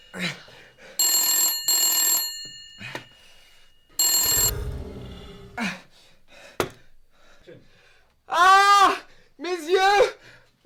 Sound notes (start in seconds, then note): 4.4 sound of gasp; 4.5 sound of phone wire being cut